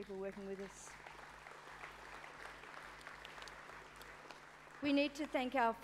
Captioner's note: applause